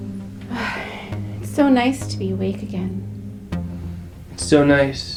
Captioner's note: pensive synth music continues; sighs